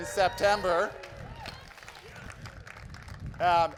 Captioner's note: crowd cheers